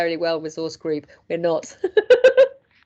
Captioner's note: chuckles